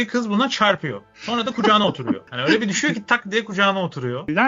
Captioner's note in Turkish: kahkaha